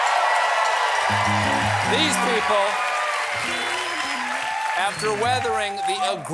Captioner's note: cheers and applause